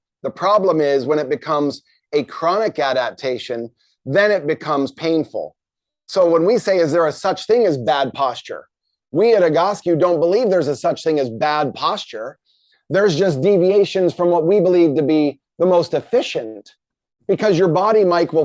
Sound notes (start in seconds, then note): none